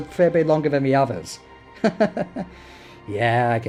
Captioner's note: insert chuckling here